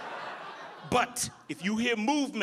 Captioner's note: audience laughing